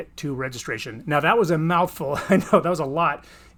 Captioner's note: laughs